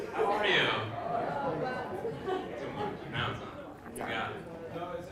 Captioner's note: laugh